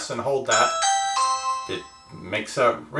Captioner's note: ringing